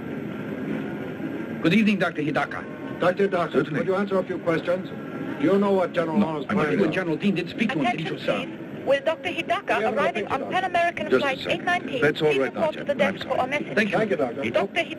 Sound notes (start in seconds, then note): 8.4 woman Over PA